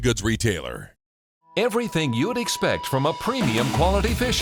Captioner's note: voiceover